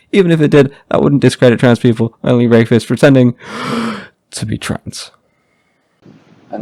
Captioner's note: inhale